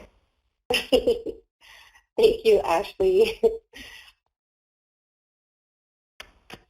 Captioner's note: laughs